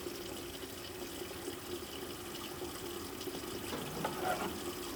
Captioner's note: water facet running